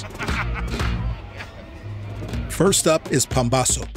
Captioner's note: laughing